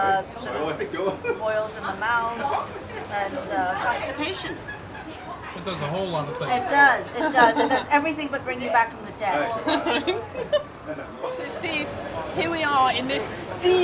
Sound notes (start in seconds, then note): 9.6 laughs